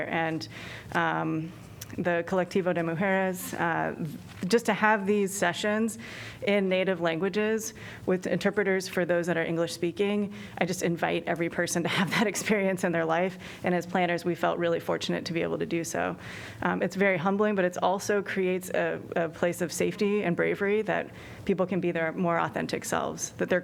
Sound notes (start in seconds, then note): 11.6 laughter